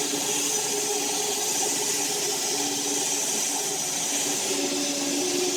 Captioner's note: log saw whirring continues